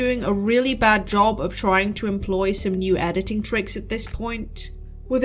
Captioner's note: none